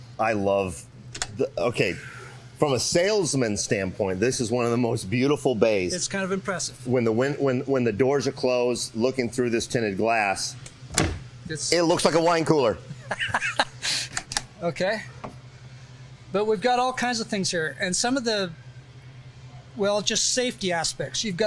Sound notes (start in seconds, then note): 12.9 chuckles